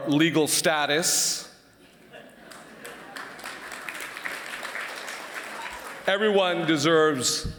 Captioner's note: applause